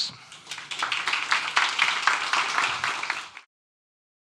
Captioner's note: audience applauding